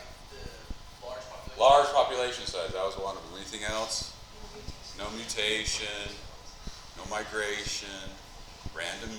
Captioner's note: students talking